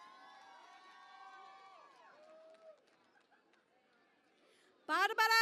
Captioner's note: cheering and Applause